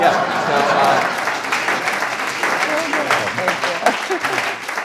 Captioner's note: audience applauding; audience laughing; audience applauding